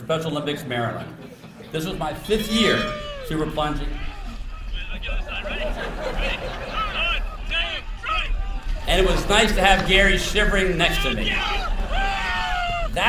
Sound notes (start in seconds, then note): 4.8 laughter; 11.7 cheering